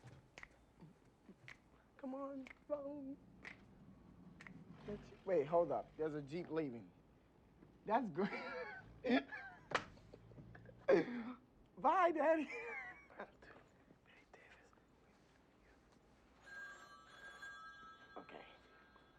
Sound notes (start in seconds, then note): 16.4 phone rings